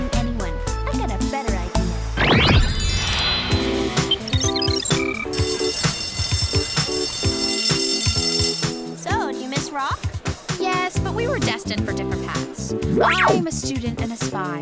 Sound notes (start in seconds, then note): 7.3 bell ringing